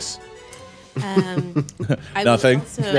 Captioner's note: laughing